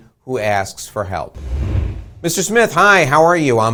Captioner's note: air whooshing